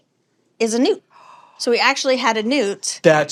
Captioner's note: gasps